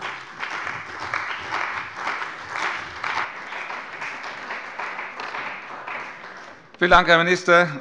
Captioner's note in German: Beifall bei der CDU und dem BÜNDNIS 90/DIE GRÜNEN